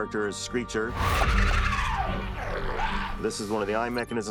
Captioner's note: shrieks